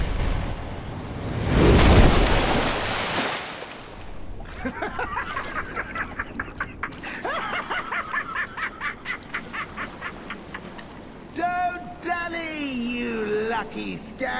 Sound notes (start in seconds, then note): 4.6 Patches laughing hard